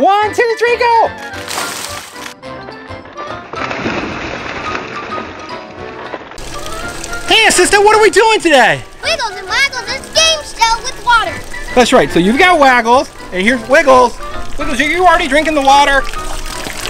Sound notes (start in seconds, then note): 1.0 balls crashing; 2.6 water splashing